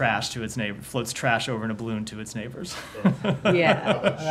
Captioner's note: laughter